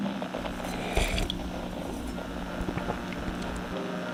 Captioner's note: drinking wine fx